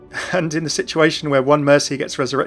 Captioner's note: voiceover